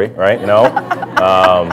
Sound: laughter

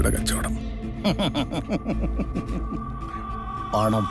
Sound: laugh

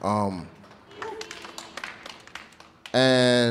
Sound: audience members applauding

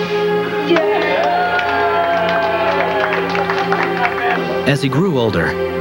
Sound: clapping

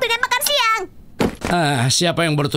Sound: sighing

